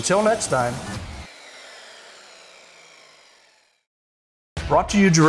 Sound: saw buzzing

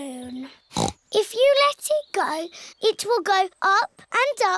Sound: snorts

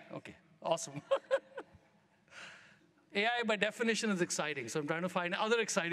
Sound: laughs

